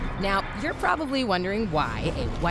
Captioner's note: none